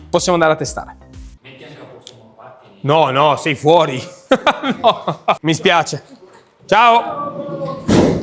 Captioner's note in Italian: risate